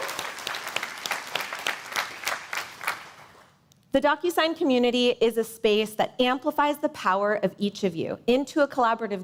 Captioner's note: cheers and applause